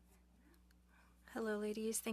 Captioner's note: speaking French